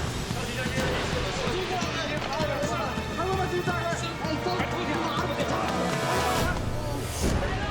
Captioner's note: tourists continue yelling in foreign language